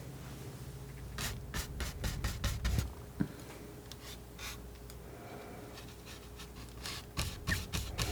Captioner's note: scratching